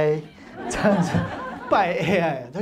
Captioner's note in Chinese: 哈哈哈